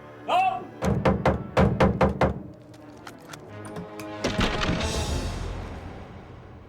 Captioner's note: fists thudding